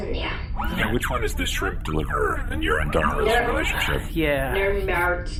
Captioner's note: Nermut sighs